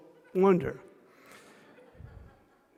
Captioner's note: laughter